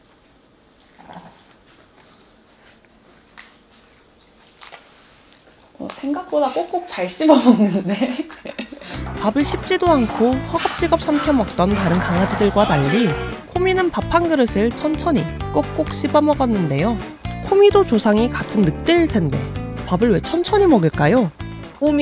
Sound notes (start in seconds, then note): 2.9 Komi putting small amounts in its mouth and chewing